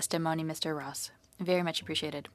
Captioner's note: speaking French